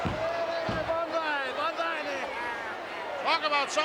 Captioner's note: Mr. Fuji speaks Japanese